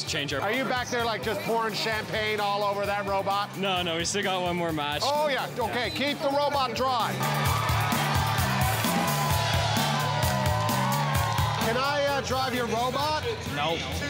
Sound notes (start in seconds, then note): 7.1 cheering